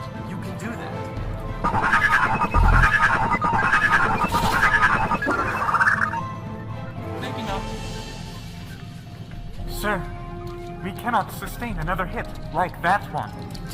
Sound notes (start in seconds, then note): 1.6 aggressive machine sounds